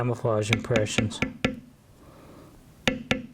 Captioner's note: tapping